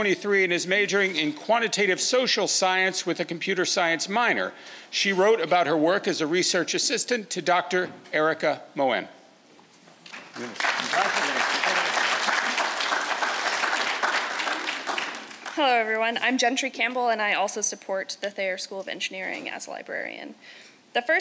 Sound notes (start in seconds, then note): 10.1 audience applauds